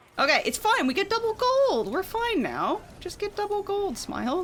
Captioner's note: none